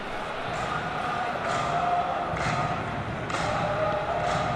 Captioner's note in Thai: ปรบมือ